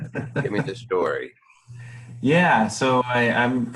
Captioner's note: laughs